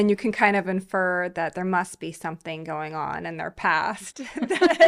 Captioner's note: laughing